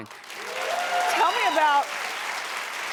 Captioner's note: audience cheering